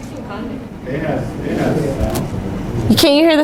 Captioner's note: students talking